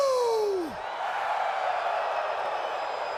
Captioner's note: crowd cheering